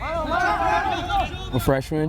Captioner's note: players shouting